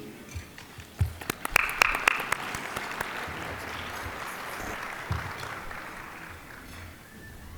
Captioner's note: applause